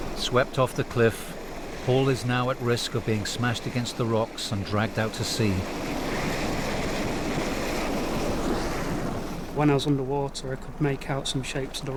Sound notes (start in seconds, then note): 0.0 water whooshing; 0.0 waves crashing; 5.9 water whooshing; 5.9 waves crashing